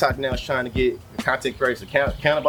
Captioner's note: birds Chirping